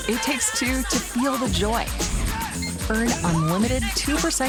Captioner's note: card reader beeps